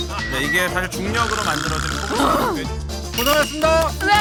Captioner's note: sigh